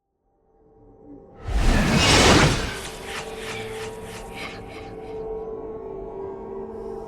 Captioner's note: dark dramatic music; growl echoes